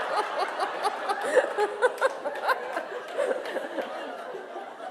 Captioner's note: laughter